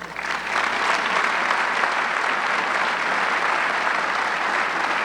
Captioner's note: audience clapping